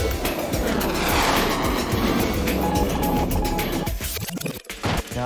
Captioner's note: intense music; jet engine roaring